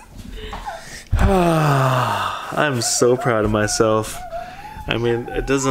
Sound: laughing; sighs

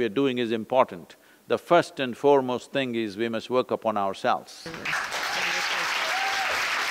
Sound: applause

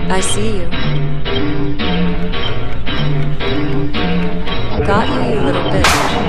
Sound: shots

